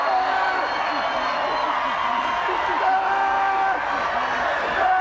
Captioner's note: audience cheers